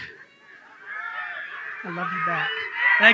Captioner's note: audience cheering